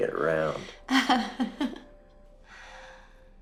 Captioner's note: chuckling